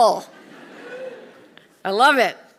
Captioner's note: audience laughing